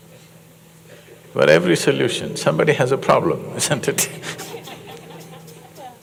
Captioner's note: laughter